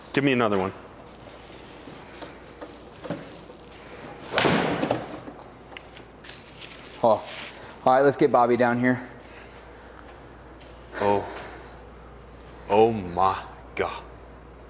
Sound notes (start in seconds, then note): 4.3 ball thuds